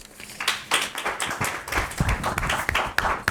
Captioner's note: crowd clapping